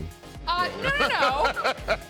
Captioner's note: laughing